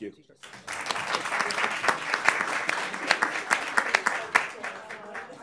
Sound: audience applauds

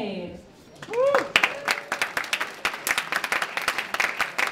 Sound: applause

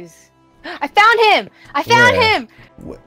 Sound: gasp

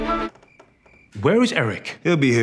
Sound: crickets chirring

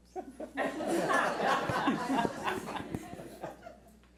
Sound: laughs

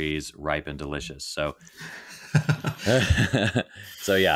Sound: all laughing

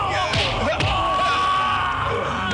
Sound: assorted groans

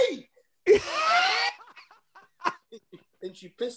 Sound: laughter

